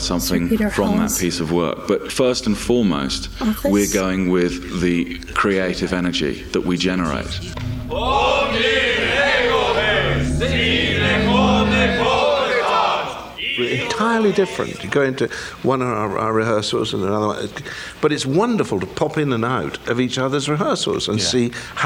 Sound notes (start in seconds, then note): 7.5 foreign language